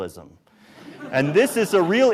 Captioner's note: audience laughs